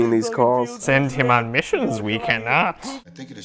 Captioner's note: mumbling drunkenly in the background; mumbling drunkenly in the background